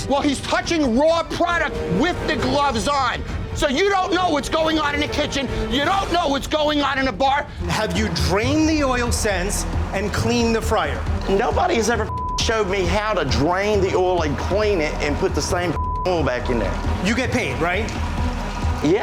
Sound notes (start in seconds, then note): 12.0 beep; 15.7 beep